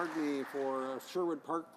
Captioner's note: speaking in native tongue